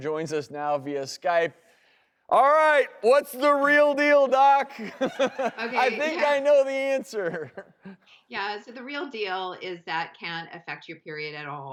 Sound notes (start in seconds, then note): 4.4 laughs